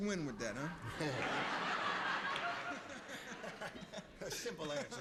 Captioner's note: laughter